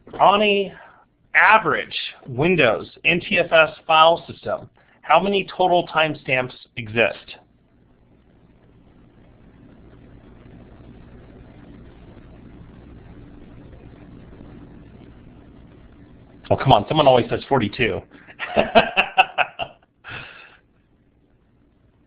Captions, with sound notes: On a average Windows NTFS file system, how many total timestamps exists? Oh come on, someone always says 42 (laughing).